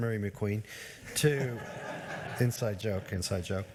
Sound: members laughs

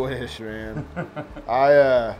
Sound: laughs

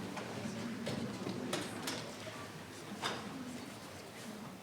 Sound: speaking faintly

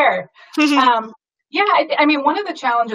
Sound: laughs

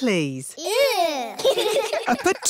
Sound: giggling

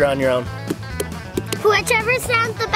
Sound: hands tapping

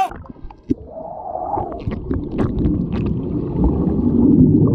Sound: gurgling

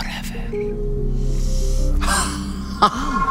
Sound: Madame Sonnom dep inhale and supes creepy laugh

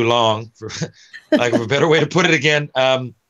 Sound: laughing

